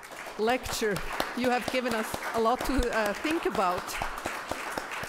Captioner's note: applause